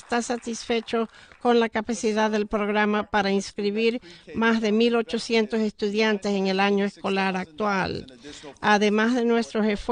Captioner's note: applause